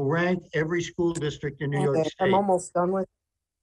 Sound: audio interrupttions

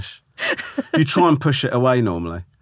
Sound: laughing

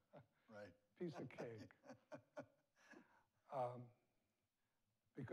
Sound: laughs

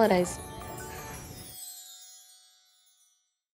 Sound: tinkling

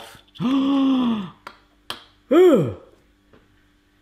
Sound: gasping

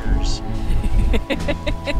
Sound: laughing

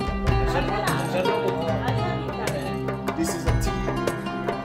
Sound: crowd talking in foreign language

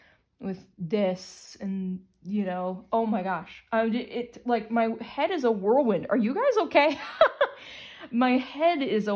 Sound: laugher

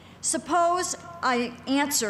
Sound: none

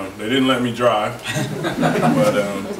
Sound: group laughs

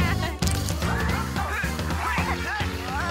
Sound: playful music; laughing

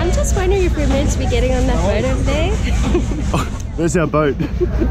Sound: laughing

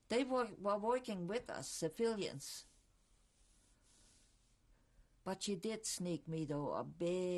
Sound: pauses for 3 seconds

